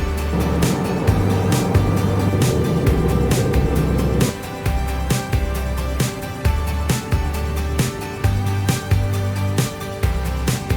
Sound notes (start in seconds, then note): 0.2 airplane engine roaring; 8.0 upbeat music